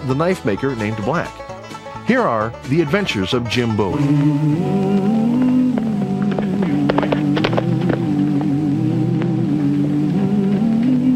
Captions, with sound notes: the knife maker named Black. Here are "The Adventures of Jim Bowie". (singer humming) (horse galloping)